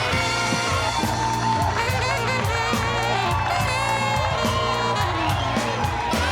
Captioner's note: guests continue cheering; jazzy music continues